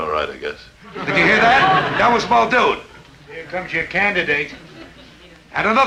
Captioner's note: audience chuckling